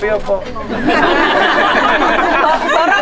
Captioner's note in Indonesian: tertawa